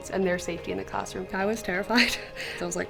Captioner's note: chuckles